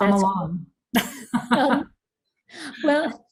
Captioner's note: laughs